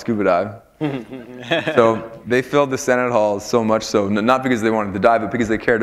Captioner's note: chuckle